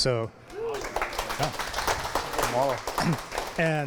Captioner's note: applause